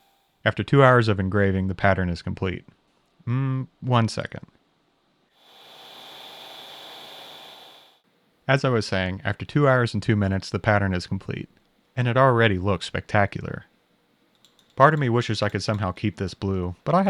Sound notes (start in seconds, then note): 5.5 machine whirring